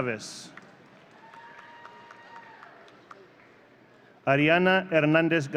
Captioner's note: audience cheering